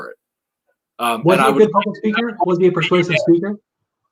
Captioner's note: murmuring